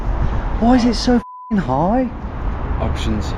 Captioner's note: beep